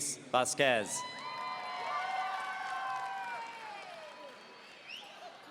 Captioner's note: audience cheering